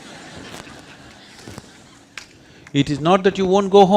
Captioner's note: laughter